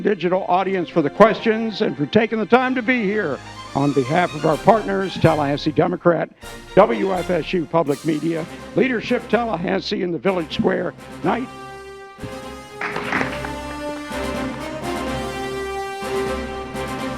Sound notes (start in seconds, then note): 12.8 applause